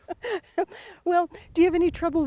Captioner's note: chuckles